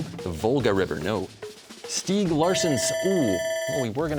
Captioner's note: bell ringing